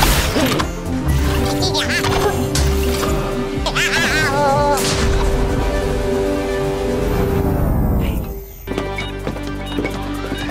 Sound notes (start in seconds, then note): 1.4 robotic chattering; 6.3 electricity powering down; 8.6 beeping